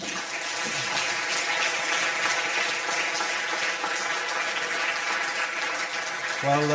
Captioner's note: audience applause